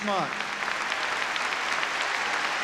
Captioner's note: applause